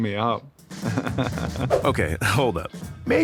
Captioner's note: chuckles